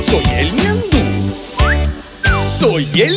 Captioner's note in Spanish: Silbido